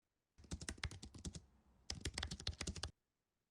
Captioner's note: typing sounds